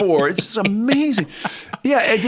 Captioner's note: chuckle